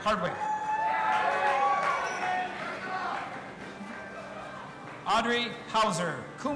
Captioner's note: audience applauding and cheering